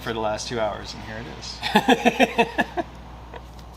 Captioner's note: laughter